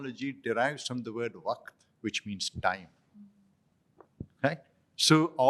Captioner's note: non-english